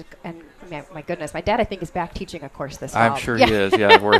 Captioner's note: laughs